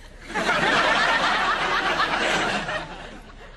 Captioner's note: audience laughter